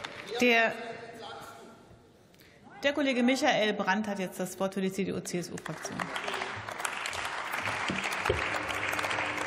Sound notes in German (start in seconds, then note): 5.5 Beifall